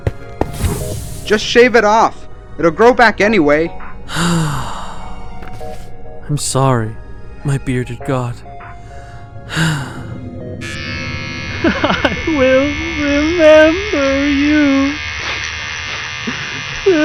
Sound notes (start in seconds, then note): 4.1 sighs; 9.4 sighs; 11.6 sobbing